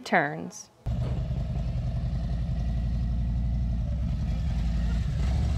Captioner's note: motorcycle whirring